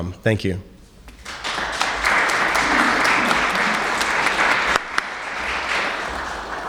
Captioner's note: applauses